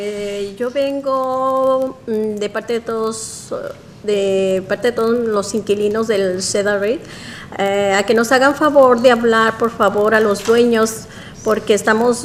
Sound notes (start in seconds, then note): 8.6 speaking spanish